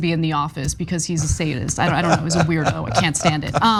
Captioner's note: laugh